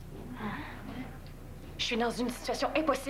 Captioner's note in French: Murmures de surprise